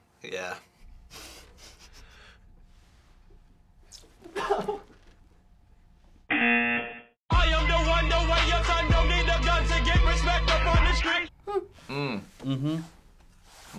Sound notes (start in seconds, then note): 1.1 snickering; 3.7 spitting; 4.2 laughing; 6.3 buzzer